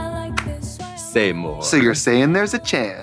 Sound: Katya clapping

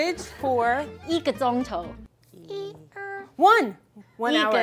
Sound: speaking in mandarin

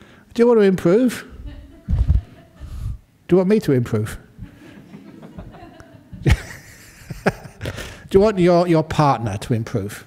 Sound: laughter

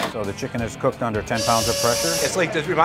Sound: steam engine whistling

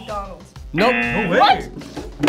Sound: buzzer blares

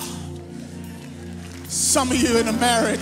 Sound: audience applauds

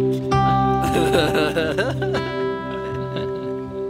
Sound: laughter

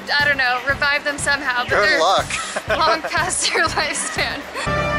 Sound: laughter

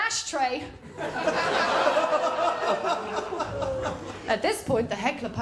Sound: laughter

